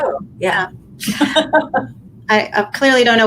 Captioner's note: laughing